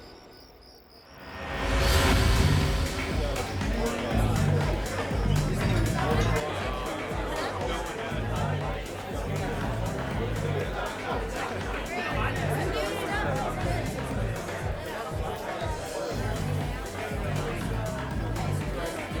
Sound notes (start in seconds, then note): 2.6 dance music; 2.6 party guests chattering